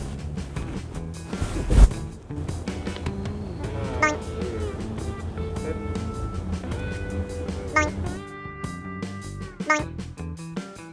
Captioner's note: snap